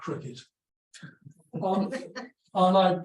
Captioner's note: audience laughs